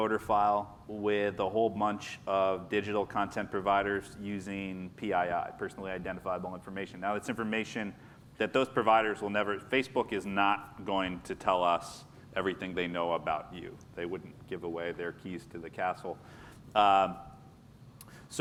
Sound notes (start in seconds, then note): none